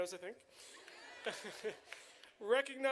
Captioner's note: chuckles; audience cheering